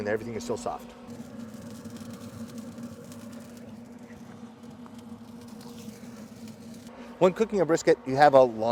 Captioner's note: sizzling Meat